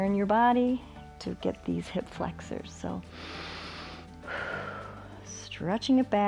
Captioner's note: inhales and exhales